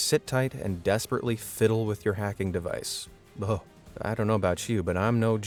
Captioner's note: shudders